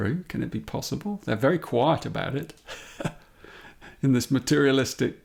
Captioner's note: chuckles